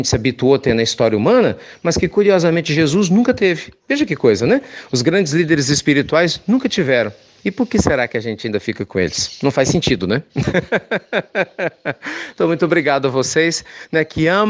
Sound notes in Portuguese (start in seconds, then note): 10.3 risos